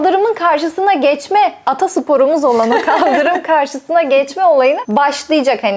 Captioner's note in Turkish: kahkaha